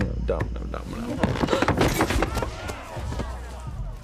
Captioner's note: gasps; crashing, body thuds